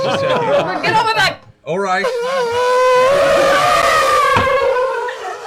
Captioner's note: elephant sound